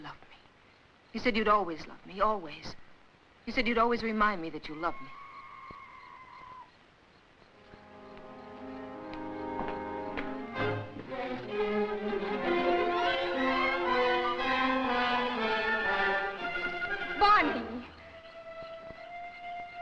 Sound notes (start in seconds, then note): 4.8 screeching in the jungle; 11.6 suspenseful music